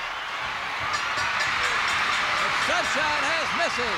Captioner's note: bell rings